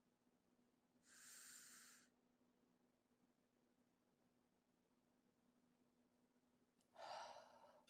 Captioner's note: inhales deeply; exhales